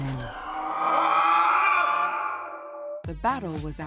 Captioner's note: men screaming